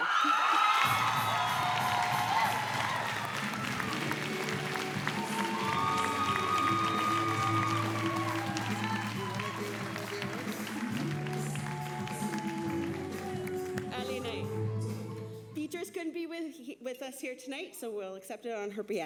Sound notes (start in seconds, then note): 6.5 applause